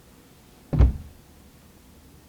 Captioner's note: thud